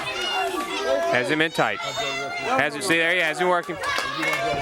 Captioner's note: crowd cheering